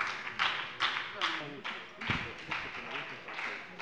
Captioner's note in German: Beifall bei der SPD